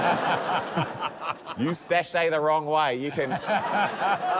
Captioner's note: laughter